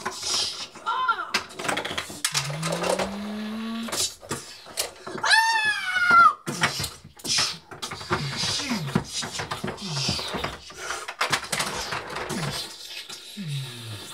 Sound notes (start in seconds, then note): 2.2 vocalizing sound effects